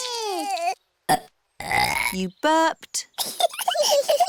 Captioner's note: both bawling; both burping; both giggling